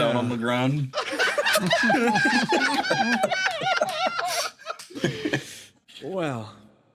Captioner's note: laughs